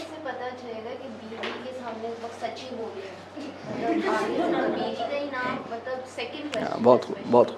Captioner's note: giggles